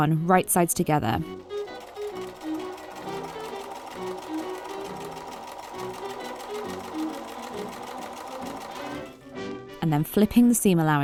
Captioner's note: machine whirring